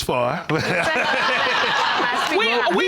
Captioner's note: all laughing